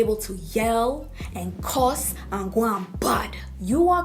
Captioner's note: jamaican patois